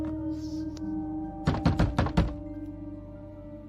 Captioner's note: knocking loudly